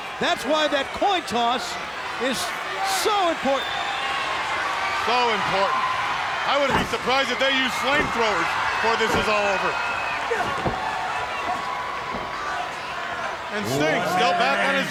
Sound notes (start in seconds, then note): 4.4 crowd screaming; 10.3 wrestlers grunting